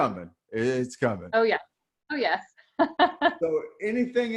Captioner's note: laughs